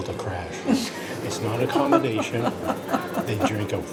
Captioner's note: laughing